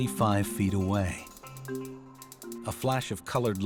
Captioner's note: clicking noises